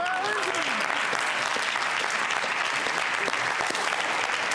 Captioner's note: audience applause